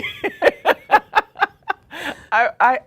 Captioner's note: laughs